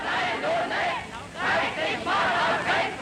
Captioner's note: crowd chanting in german